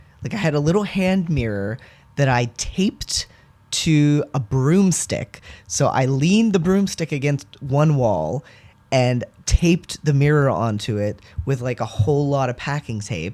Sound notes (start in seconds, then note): none